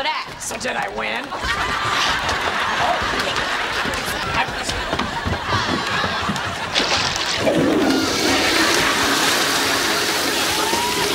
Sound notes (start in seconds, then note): 6.8 toilet flushing